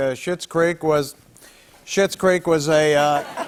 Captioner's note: laughter